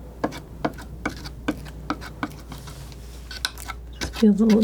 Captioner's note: scraping